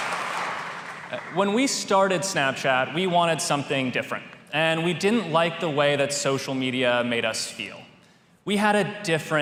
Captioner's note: cheers